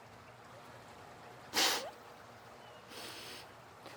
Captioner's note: sniffs